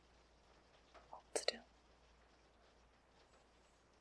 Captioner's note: whispers